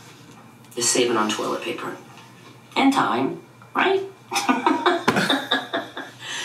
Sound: laughing

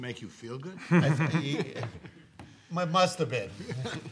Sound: laughs

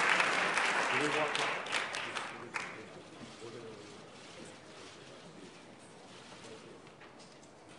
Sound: applause

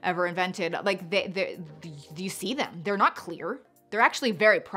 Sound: stutters

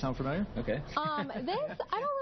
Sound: laugh

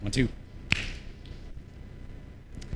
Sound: claps

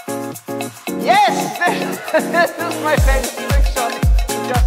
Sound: guffaws

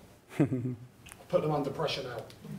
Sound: chuckles

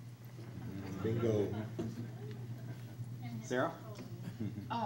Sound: crowd chatters

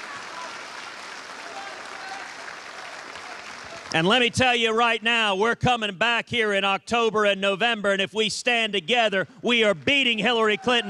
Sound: cheers and applause

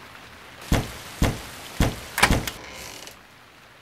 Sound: knock

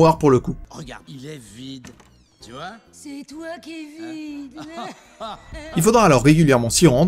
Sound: laugh together

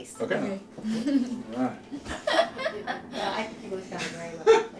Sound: laughing

